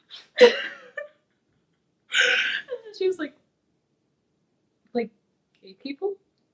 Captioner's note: laughs